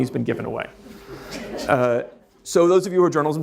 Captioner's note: audience laughs